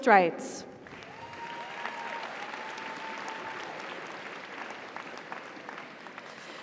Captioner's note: audience applauds; audience cheers